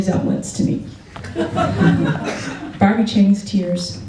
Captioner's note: laughter